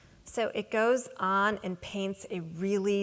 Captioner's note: none